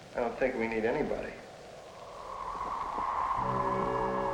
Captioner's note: wind